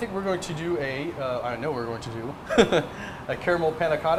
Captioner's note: chuckles